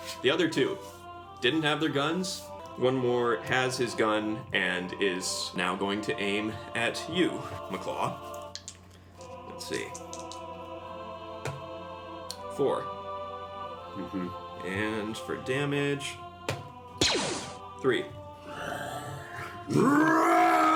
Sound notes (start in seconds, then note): 18.5 roars